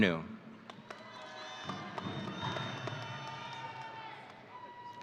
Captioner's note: audience cheering